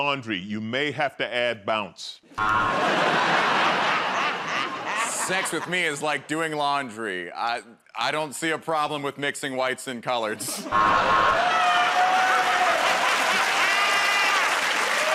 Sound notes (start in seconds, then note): 2.4 buzzer; 2.7 laughs; 10.6 buzzer; 11.3 cheers and applause